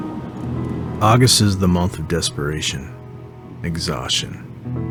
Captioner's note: voiceover